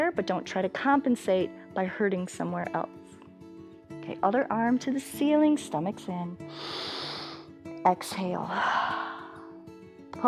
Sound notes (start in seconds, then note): 6.5 inhales; 9.0 exhales